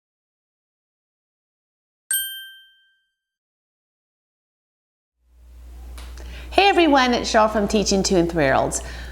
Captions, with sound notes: [Ding] Hey everyone! It's Sheryl from Teaching 2 and 3 Year Olds.